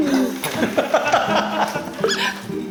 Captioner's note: haha